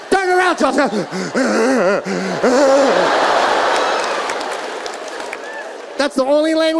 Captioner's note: audience laughing; faking crying